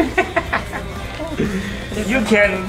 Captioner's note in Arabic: يضحك